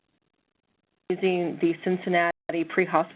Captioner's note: voiceover